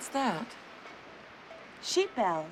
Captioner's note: bells clanging